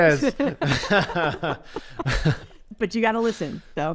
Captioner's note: laughter